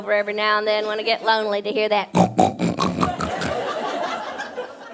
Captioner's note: snorts loudly